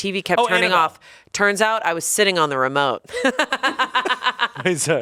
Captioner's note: laughs